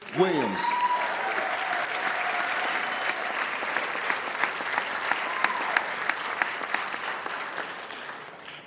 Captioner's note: audience applauds